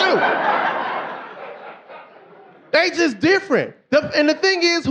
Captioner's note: audience laughing